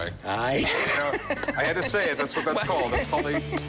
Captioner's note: laughs